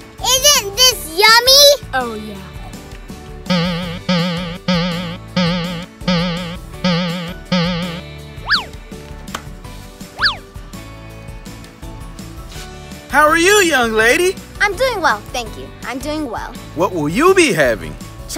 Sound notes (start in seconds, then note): 3.5 boinging